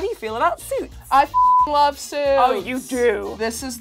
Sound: beep

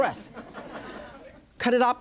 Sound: audience laughs

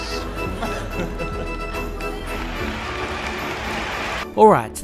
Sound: laughing

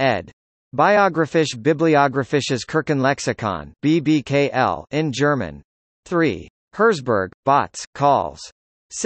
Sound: in German

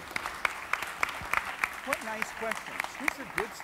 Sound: audience applauds

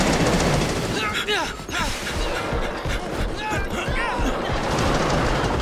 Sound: grunting

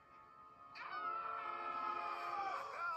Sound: screaming

